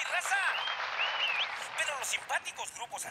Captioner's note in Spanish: aplausos